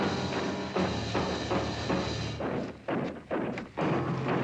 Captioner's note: suspenseful music; gunshots